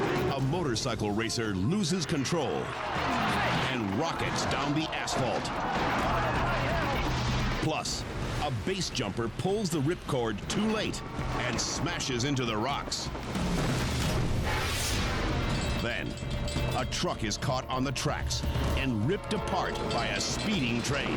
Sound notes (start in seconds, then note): 5.4 sportscaster chatters; 5.6 spectators gasp; 13.1 tense music